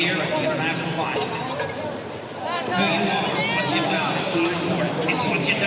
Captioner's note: distant loudspeaker